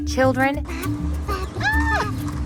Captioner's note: child babbling